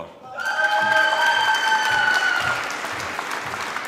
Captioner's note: screaming and applause